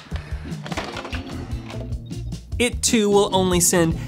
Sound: cables clattering

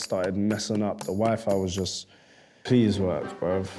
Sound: sighs

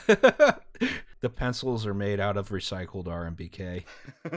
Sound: laughter

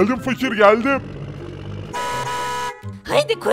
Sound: honk

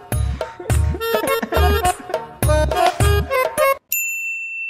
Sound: crying

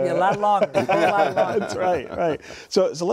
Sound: laughter

